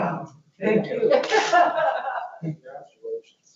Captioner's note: laughs